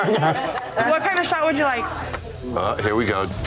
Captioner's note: laughing